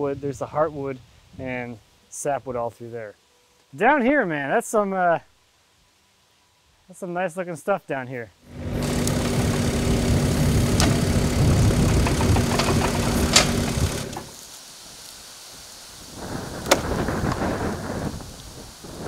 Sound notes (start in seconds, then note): 8.4 skid steer engine humming; 8.4 wind susurrating